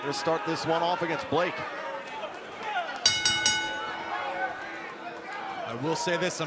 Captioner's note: bell ringing